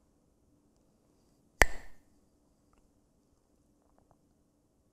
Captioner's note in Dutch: klakt met stokjes